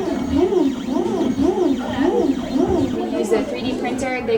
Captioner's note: printer whirring